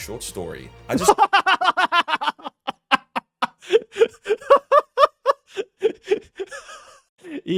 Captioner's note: laughing in italian